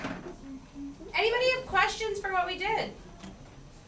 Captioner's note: voiceover